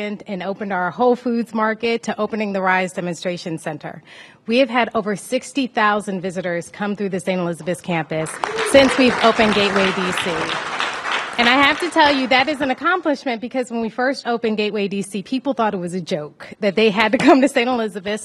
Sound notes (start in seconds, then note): 11.7 applause